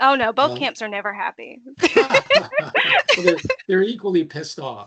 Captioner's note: laughing